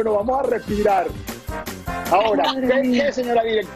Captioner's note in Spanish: risas